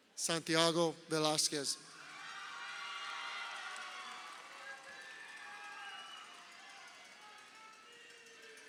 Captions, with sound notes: Santiago Velasquez. (crowd cheering)